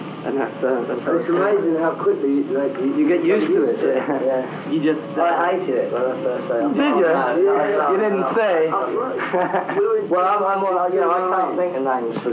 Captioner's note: mummering